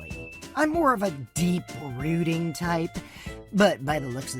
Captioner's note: sarcastic